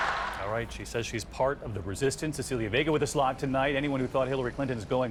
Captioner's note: applause